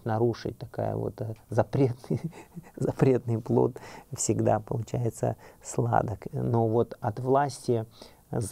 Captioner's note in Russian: смех